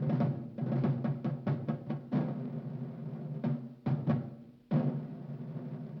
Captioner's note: none